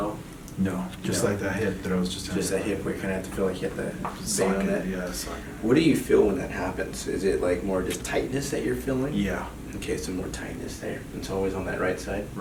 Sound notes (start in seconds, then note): none